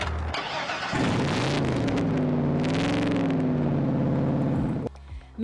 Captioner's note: ignition sputtering; engine rumbling